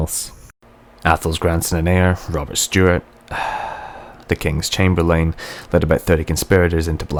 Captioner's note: sigh